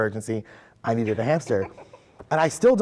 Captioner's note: laughing